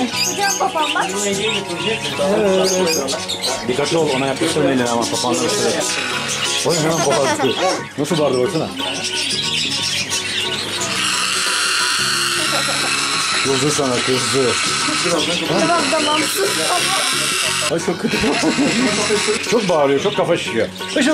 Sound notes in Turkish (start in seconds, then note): 12.2 Kuş ses çıkarıyor ve gülüşmeler; 17.8 Gülüşmeler